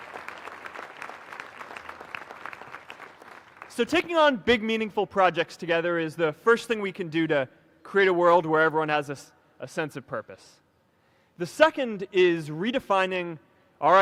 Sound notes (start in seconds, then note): 5.1 applause